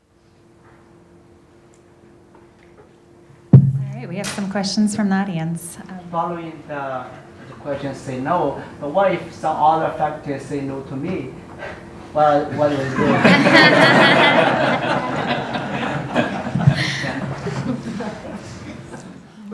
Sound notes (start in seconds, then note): 12.6 laughing